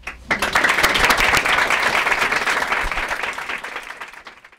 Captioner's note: applause